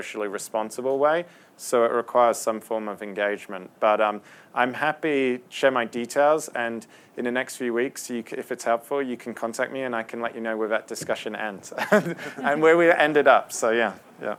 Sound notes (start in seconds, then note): 11.7 laughter